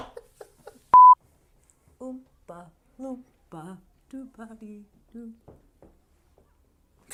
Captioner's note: beep; laughs